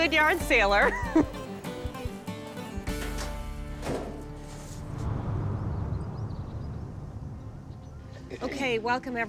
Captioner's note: chuckles